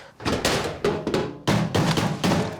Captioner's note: bin lid banging; dish thumping